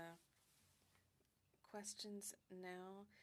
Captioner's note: speaking French